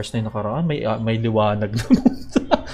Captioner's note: haha